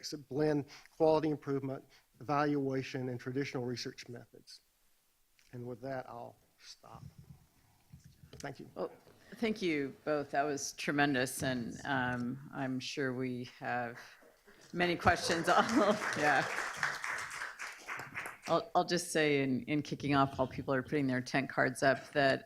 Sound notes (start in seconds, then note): 14.6 audience applauds